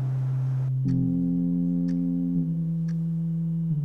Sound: clock ticking

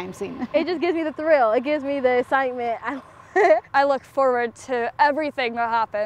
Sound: laughs

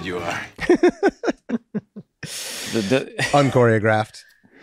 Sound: Rob laughs

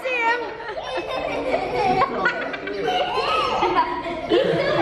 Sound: people laughing

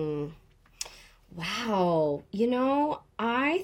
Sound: none

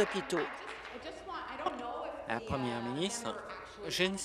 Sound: applause

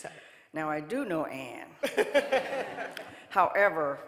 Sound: audience laughing

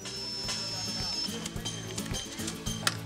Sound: sound of Volunteers working on future playground site

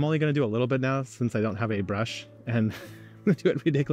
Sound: chuckles

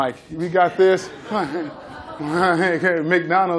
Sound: laughter

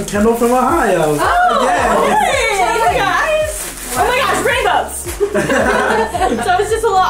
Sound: laughs

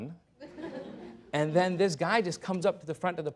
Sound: laughter

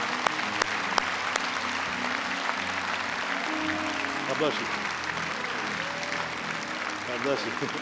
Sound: applause

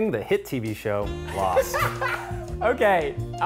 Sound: laughter

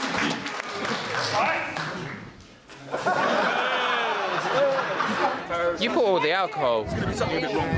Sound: applause; laughter

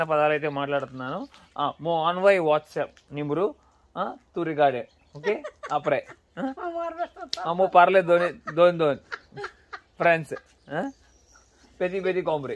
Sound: speaking in foreign language

